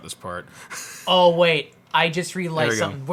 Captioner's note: laughs